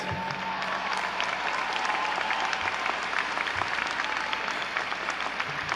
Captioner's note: audience cheering